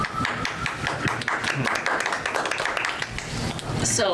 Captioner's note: audience applause